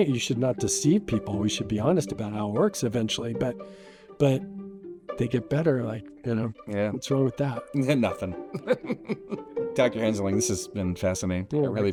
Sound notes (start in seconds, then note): 8.5 laughs